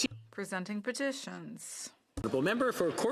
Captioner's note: speaking French